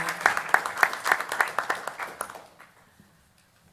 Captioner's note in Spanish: Aplausos